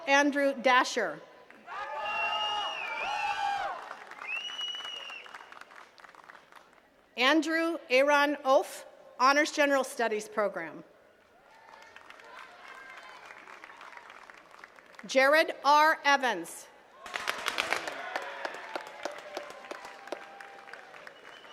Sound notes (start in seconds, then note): 1.4 attendees cheering and clapping; 11.3 attendees clapping; 16.9 attendees cheering and clapping